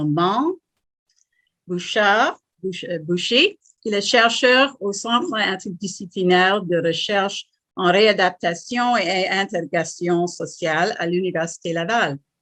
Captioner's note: French